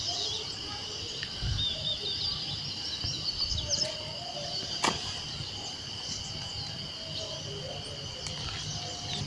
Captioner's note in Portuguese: som da natureza